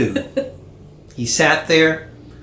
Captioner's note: giggle